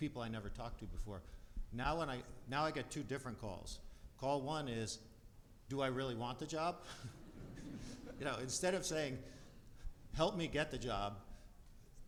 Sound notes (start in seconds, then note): 6.9 laughs; 6.9 audience laughs